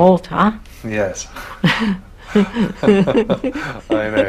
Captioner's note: both laugh